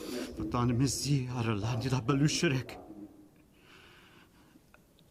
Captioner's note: speaks in foreign language